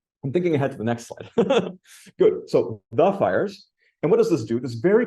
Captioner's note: laughs